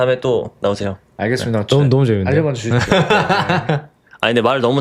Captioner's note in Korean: 웃음